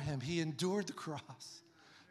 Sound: none

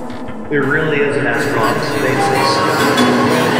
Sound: echos

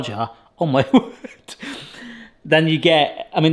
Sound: laughs

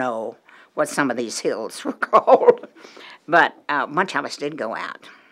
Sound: chuckle

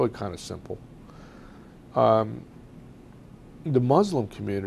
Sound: pauses for 3 seconds

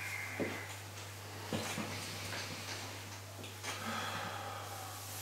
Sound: deep breathing

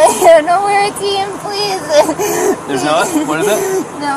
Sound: sobbing

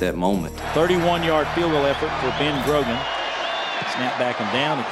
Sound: voiceover

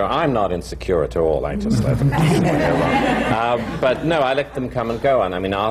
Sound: laughter

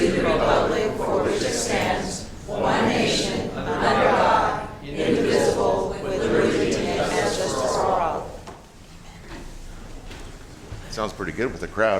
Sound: reciting the pledge of allegiance

